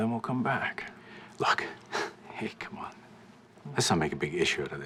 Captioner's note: scoffs